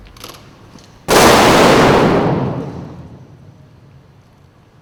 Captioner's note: gunfire